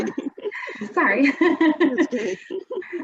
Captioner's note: laughs